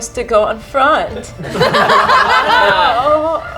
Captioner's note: group laughs